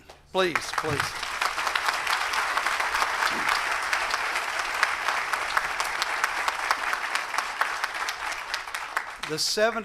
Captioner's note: applause